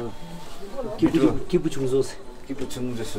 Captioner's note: tibetan dialogue